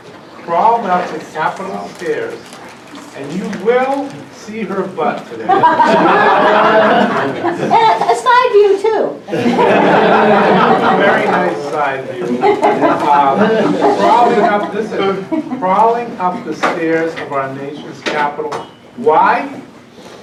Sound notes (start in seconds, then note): 5.3 laughing; 12.1 laughing